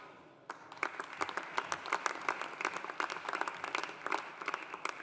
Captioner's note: audience applauding